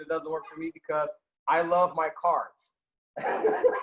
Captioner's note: laughing